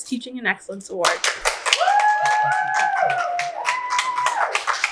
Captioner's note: audience cheers